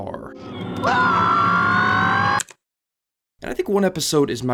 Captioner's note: screaming